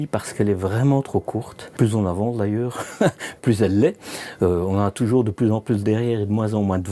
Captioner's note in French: rires